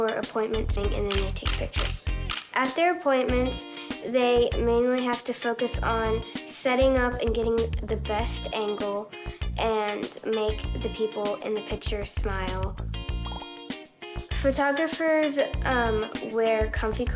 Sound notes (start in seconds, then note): 1.0 camera clicking